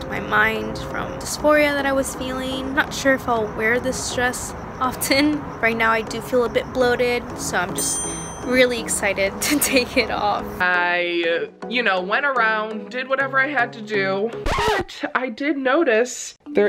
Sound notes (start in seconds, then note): 7.7 check dings; 14.4 record scratches